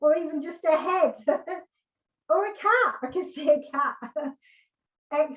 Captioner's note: laughs